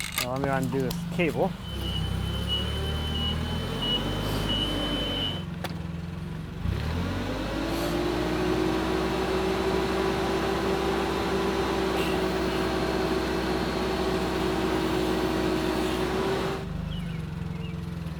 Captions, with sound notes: I'm gonna undo this cable. (forklift beeping) (forklift engine revving)